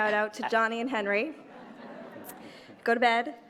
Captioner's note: laughter